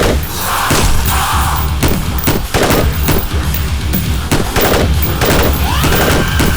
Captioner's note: gunfire